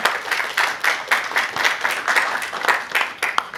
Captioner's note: applause